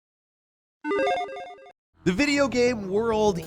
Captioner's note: video game sound effect